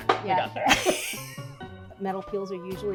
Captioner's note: laughing